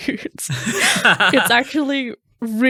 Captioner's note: laughing